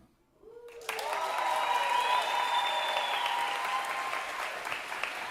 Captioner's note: audience cheering and applauding